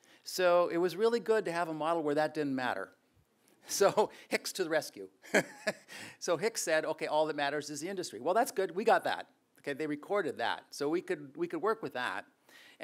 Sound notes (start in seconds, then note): 5.3 laughs